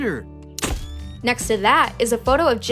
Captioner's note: camera flashes